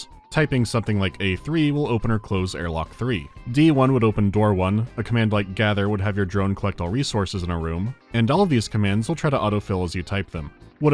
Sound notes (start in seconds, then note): none